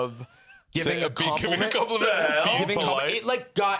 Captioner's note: laughing